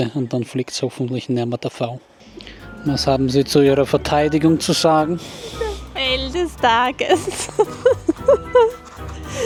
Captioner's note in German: gelächter